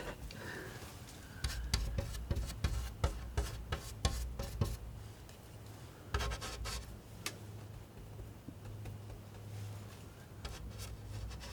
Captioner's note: tapping